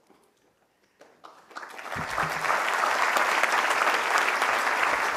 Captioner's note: applause